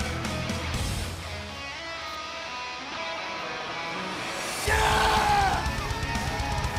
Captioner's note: cheers and applause